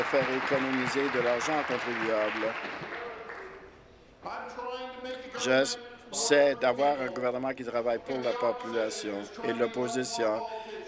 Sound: applause

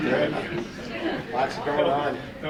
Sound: people chattering; group laughing

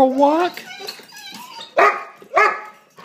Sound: excited whines and barks; excited barks

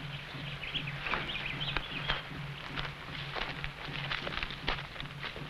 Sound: birds chirping

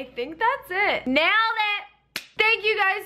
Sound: clap

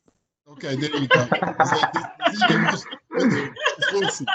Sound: laughing

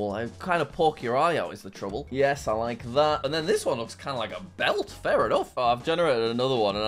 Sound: none

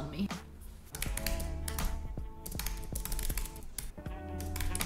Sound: keyboard clicking

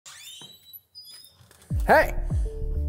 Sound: door creaking

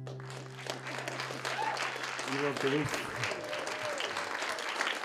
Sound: applause

